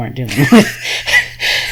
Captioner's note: laughs